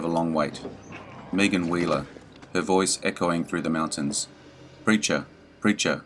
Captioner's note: her voice echoing through the mountains